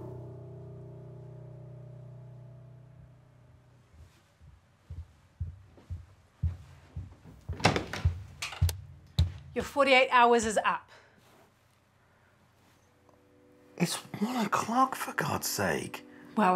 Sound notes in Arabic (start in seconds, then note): 0.0 موسيقى مشؤومة; 5.4 خطوات تقترب